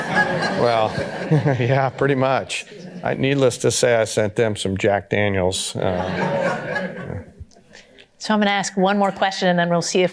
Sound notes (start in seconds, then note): 0.0 chuckling; 0.0 audience laughter; 5.8 audience laughter